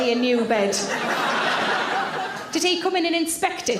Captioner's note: audience laughs